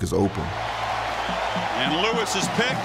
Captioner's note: crowd cheers